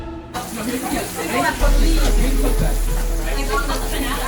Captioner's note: the sound of pan searing